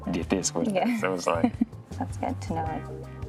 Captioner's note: laughs